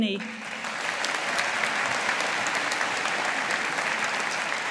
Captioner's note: audience applauding